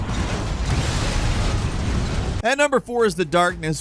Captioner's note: explosion